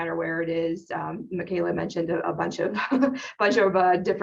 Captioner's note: laughs